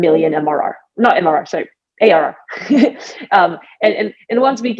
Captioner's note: laughs